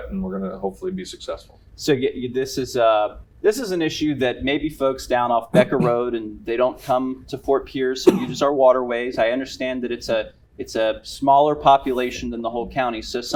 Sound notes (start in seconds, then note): 5.5 cough